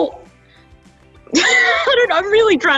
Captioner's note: laughs